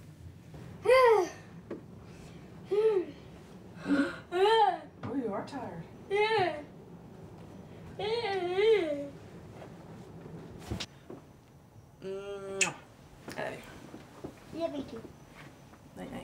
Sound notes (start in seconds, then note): 0.9 yawning; 7.9 yawns